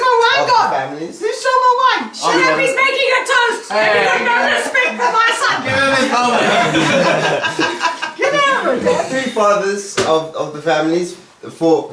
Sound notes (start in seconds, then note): 5.6 cheerful laughing